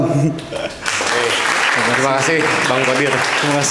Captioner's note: applause